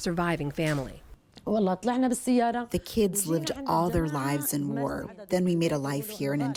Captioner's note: through translator